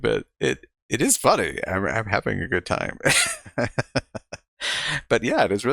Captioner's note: chuckling